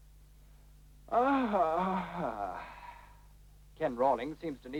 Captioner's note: yawn